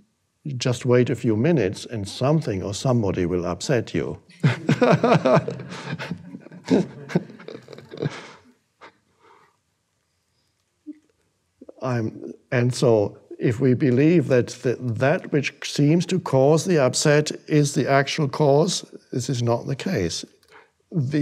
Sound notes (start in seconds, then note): 4.3 Eckhart laughing; 4.4 audience laughing